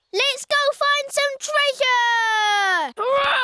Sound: none

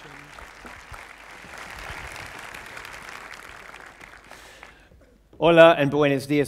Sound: applause

